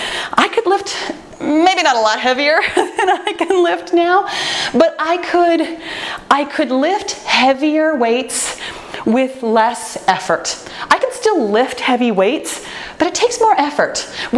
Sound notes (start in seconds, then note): 2.6 laughs